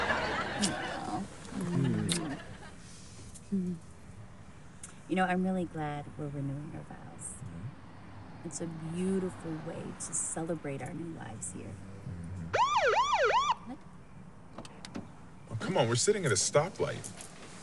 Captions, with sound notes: Aw. You know, I'm really glad we're renewing our vows. Yeah? It's a beautiful way to celebrate our new lives here. -Mm-hmm. -[siren blares] What? Oh, come on. We're sitting at a stoplight.